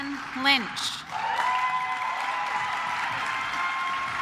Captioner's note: claps